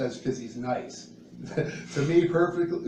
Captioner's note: chuckles; laughs